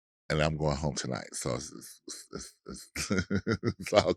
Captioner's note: chuckling